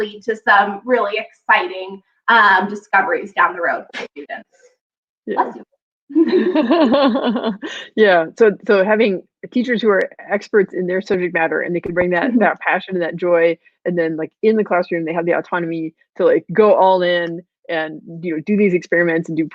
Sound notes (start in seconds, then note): 4.0 sneezing; 6.1 laughing